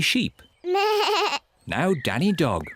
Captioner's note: bleats